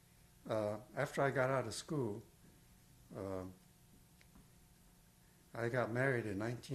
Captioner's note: pauses for 3 seconds